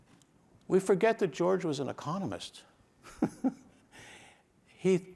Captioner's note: chuckles